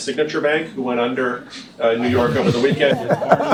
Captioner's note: laughter